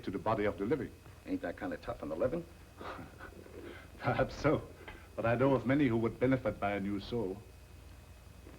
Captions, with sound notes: to the body of the living. Ain't that kind of tough on the living? [chuckles] Perhaps so. But I know of many who would benefit by a new soul.